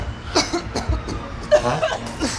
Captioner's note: Mark coughing; jogger coughing